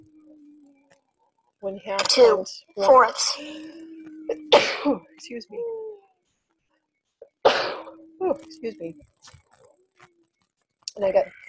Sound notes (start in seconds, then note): 2.9 voiceover